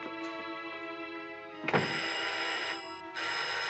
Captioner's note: ringing